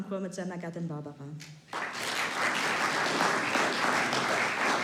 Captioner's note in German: Applaus